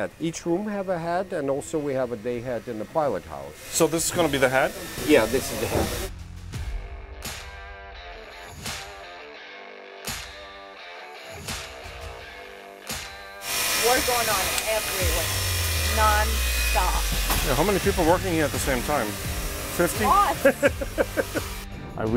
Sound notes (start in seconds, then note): 5.7 upbeat rock music; 13.4 tool whirring; 20.0 laughs